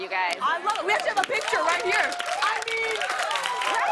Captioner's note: cheers and applause